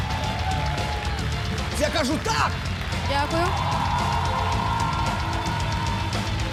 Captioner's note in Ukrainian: оплески